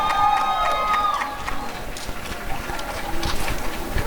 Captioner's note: applause and cheering